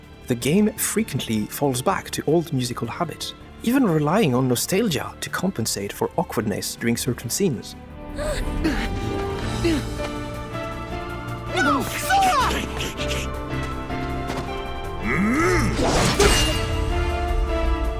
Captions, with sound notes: The game frequently falls back to old musical habits, even relying on nostalgia to compensate for awkwardness during certain scenes. (Grunts) No, Sora! (Battle grunt)